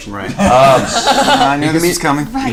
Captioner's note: all laugh